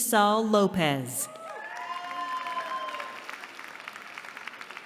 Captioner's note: applause